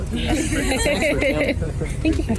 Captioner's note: everyone laughs